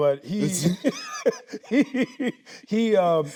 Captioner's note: both laughing